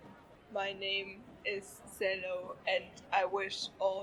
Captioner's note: robotic monotone